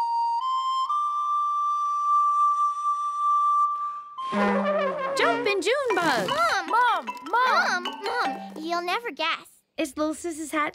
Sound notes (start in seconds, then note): 4.2 blows hard on the tuba; 4.3 laughs